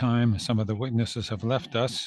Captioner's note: speaking French